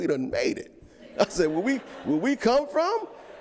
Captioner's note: audience laughs